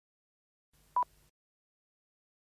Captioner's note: beeps